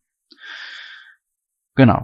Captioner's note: strong breathing